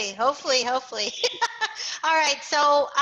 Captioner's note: laughter